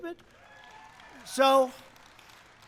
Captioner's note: applause